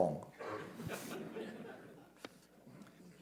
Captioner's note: laughter